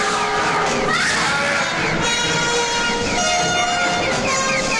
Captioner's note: Chooper screaming; eerie music